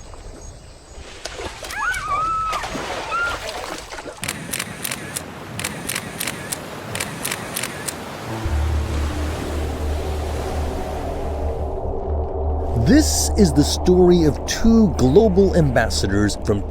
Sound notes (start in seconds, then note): 4.0 camera shutter clicking